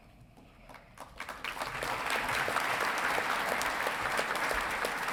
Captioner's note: audience clapping